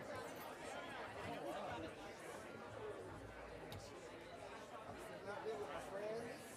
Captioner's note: audience continue talking amongst each other